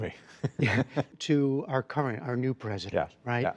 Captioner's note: laughter